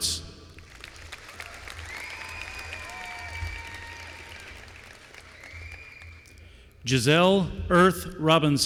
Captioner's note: applause